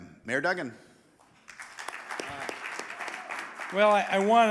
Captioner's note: audience applauding